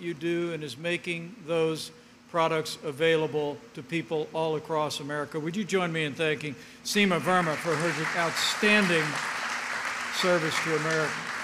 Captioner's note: applause